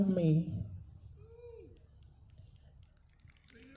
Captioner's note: applause